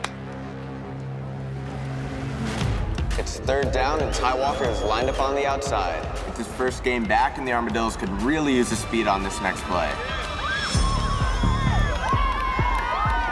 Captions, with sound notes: - It's third down and Ty Walker is lined up on the outside. It's his first game back and the Armadillos could really use his speed on this next play. (crowd cheering)